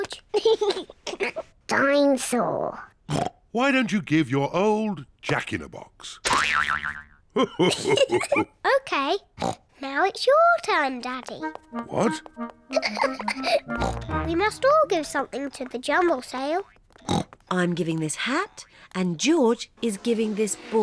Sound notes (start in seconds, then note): 0.3 laughs; 3.1 oinks; 7.4 laughs; 12.7 giggles; 17.0 oinks